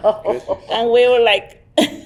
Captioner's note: chuckling